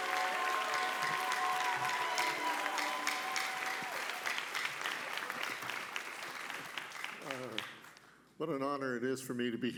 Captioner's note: applause